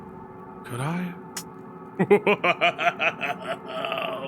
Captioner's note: laughs